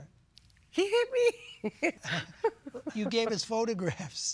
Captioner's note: laughs